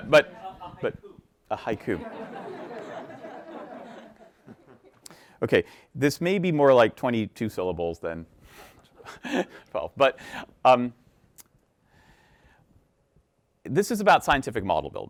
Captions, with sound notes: - A haiku. (audience laughing) Okay. This may be more like 22 syllables than 12. But this is about scientific model a building, right.